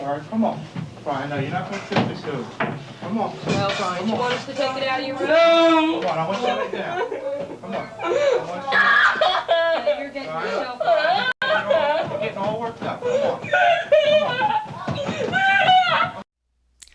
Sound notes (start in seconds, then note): 8.7 child crying; 13.9 child kicking and screaming